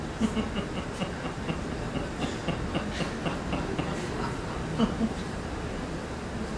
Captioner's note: laughter